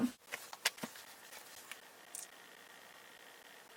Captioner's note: books rustling